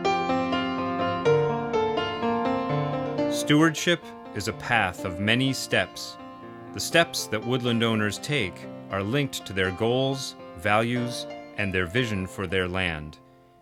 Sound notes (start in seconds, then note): 3.3 voiceover